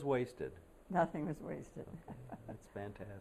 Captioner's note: laughter